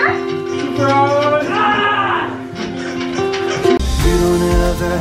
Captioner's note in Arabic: يصيح